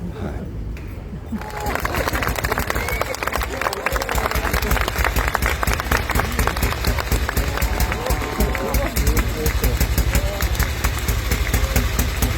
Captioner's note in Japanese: 拍手